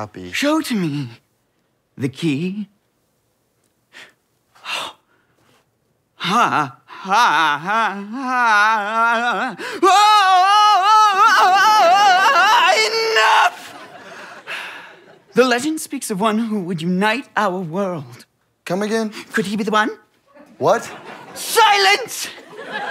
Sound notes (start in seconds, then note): 4.6 gasps; 6.5 yelling and vocalizing strangely